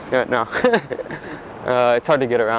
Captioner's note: laughs